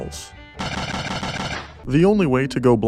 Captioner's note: gunshots